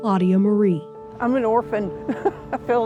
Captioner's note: chuckles lightly